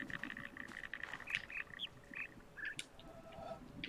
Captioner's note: bird chirps five notes